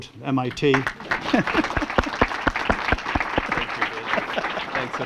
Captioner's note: applause